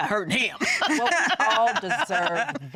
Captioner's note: laughter